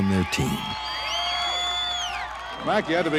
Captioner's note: crowd cheering